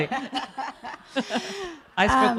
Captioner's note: laughing